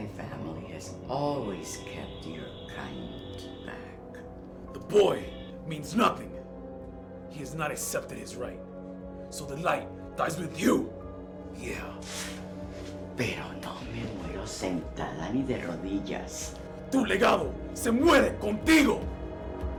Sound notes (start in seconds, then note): 11.4 Spanish